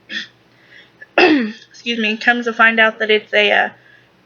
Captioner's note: coughs